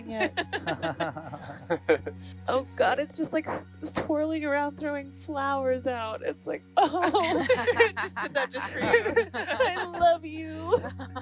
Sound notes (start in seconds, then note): 0.0 group laughing; 6.8 group laughing